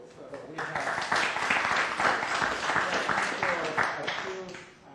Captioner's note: applause